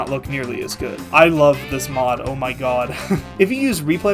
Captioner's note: laughs